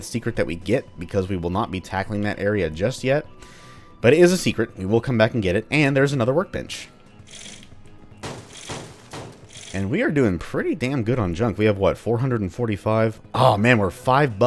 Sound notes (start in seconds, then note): 8.2 smashy intensifies